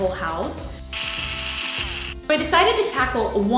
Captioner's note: drill buzzing